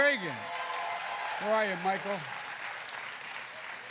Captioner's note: applause